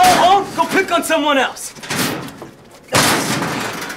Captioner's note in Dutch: kastje slaat dicht